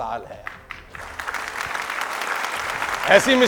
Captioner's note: clapping